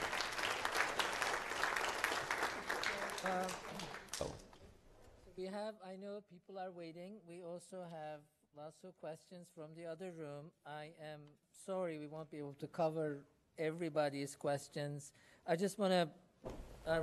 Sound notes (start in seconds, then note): 5.4 applause